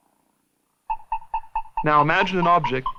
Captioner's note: beeping